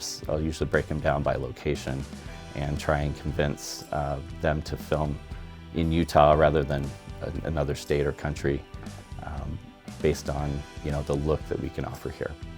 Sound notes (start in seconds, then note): none